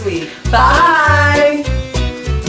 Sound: in Unison; polka music

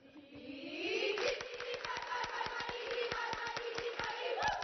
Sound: cheer

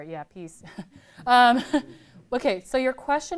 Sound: laughter

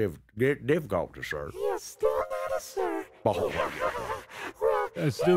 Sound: laughs nervously

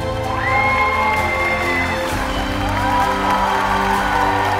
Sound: applause

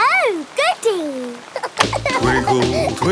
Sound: giggling

